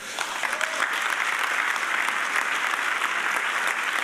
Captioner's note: audience applauding